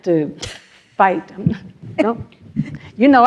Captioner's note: laughs